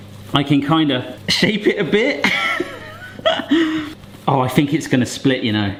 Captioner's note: laughs